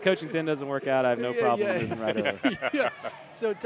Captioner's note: laughter